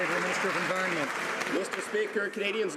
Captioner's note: some Applause